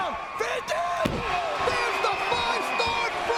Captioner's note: mat thumping